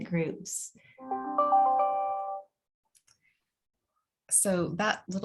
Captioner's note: computer chiming